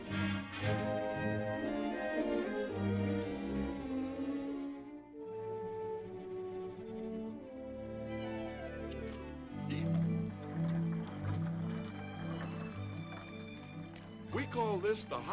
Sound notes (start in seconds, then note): 9.6 horse hooves clopping; 13.5 gentle music